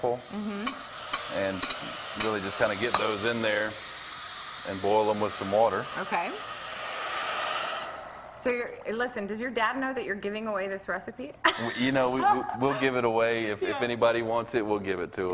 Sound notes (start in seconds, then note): 12.1 laughs